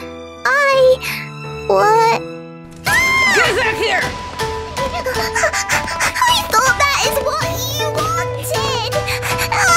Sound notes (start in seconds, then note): 3.1 confused horse running noises